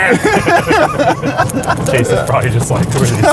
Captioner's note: laughing